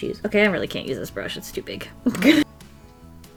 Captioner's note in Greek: Γέλια